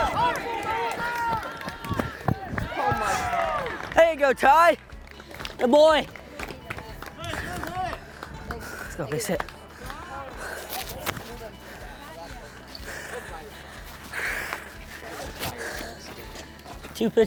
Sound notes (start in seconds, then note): 6.2 baseball hit and chatter; 6.3 applause